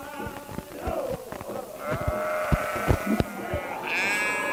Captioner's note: sound of sheep bleating